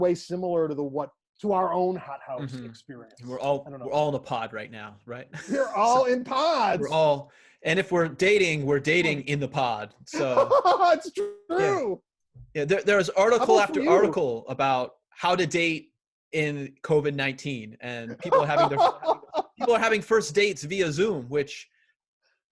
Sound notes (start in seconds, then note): 10.1 laughing